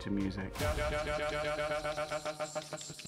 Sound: stutter effect

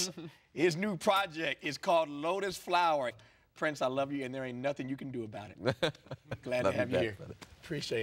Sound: laughter

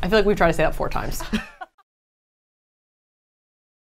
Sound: the group laughing

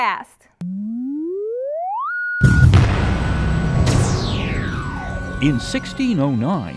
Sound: sound Effects

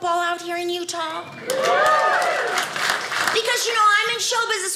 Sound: audience cheers

